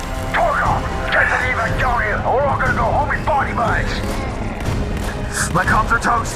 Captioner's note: over Comms